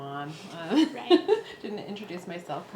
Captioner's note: laughs